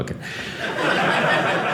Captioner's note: audience laughing